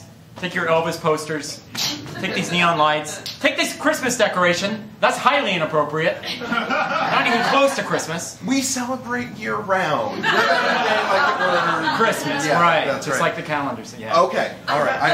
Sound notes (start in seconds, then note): 6.2 laughter; 10.1 laughter